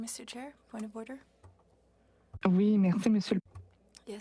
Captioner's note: speaking French